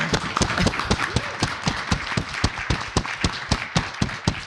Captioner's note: audience clapping